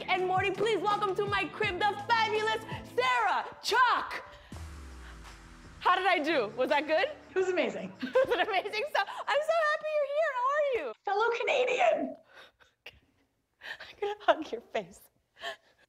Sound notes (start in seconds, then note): 12.3 laughs